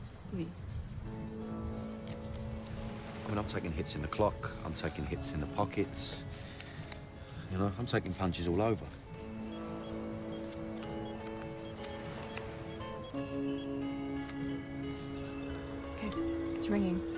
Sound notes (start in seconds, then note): 10.3 dialing; 15.5 ringing